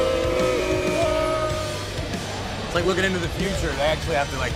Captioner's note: crowd cheering